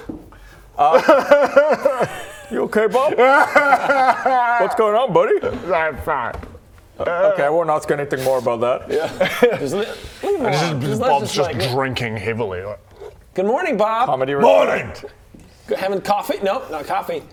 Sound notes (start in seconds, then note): 0.8 sobs